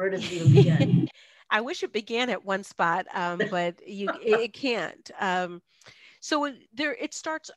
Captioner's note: laugh